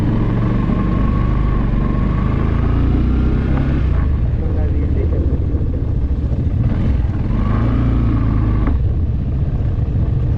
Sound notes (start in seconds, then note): 2.9 engine sound